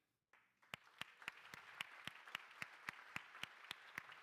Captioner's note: crowd applauding